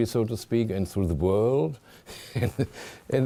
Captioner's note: chuckling